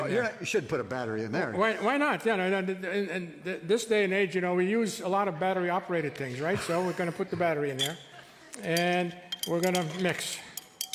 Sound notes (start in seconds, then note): 6.3 chuckles